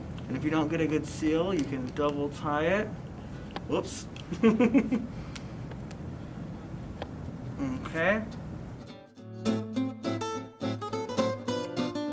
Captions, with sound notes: And if you don't get a good seal, you can double tie it. Whoops. (laughs) Okay. (playful music)